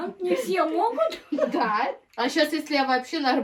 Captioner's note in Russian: смех